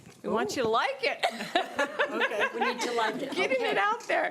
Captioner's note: laughing